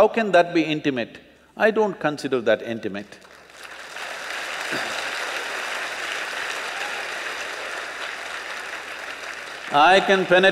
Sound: applause

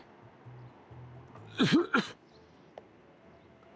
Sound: coughs

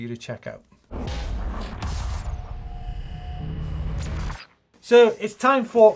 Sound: metal clashing and sparking

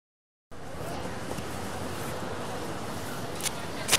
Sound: faint chatter

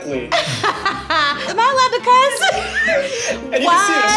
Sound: laughing

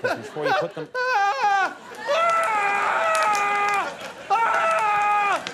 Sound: hysterically crying

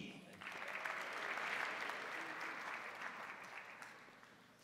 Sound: crowd applauding

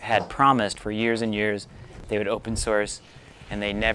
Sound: none

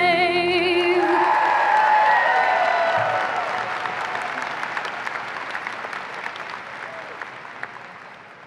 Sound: applause and cheering

